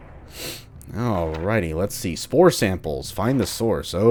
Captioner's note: journal opens/closes